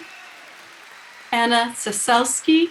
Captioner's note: people cheering